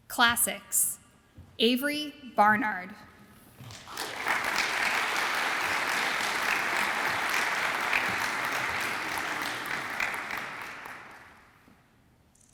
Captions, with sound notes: Classics, Avery Barnard. (audience applauds)